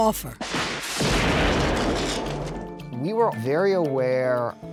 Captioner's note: explosion